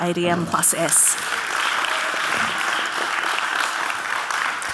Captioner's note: audience clapping